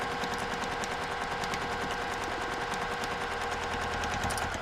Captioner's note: sewing machine hums